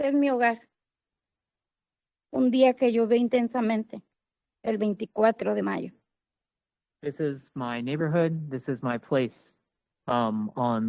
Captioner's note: speaking Spanish